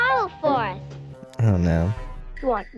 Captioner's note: Among Us “sus” sound